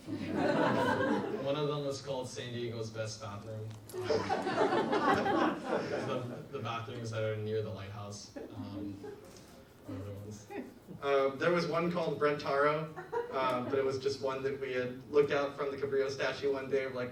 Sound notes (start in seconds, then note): 0.0 audience laughs; 3.9 audience laughs